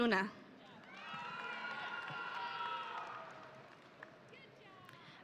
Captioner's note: audience cheering